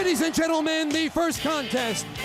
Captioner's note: crowd cheering